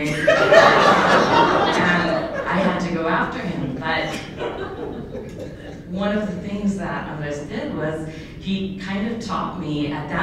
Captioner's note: laughter